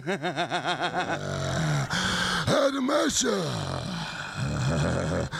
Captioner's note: growls; laughs